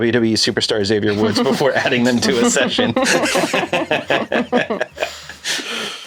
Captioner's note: all chuckle